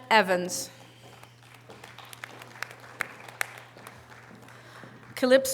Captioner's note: audience applause